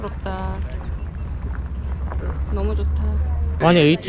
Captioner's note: horseback riding tour passing by in the distance